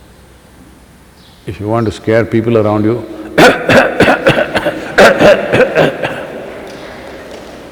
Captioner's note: coughing